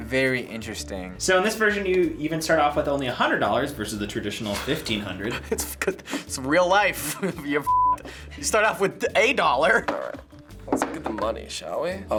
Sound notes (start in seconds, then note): 5.2 chuckles